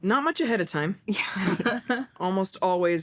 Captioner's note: laughs